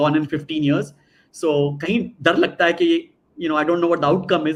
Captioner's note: non-english speech